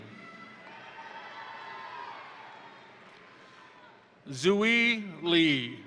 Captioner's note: crowd cheering; crowd applauding